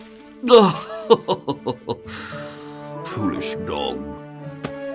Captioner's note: laughs